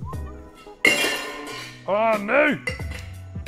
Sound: crashing

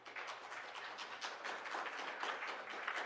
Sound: applause

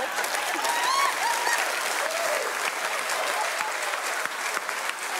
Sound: audience clapping

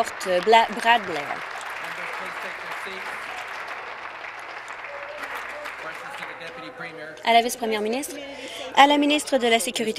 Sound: applause

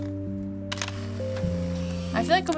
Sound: camera shutter clicking

